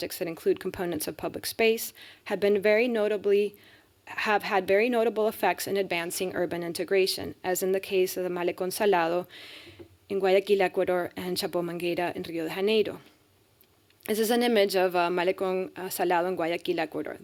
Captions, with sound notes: that include components of public space have had very notable effects in advancing urban integration, as in the case of the Malecon Salado in Guayaquil, Ecuador, and [speaking spanish] in Rio Haneda. This is an image of Malecon Salada in Guayaquil, Ecuador.